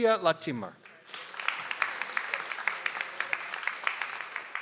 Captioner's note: audience applauds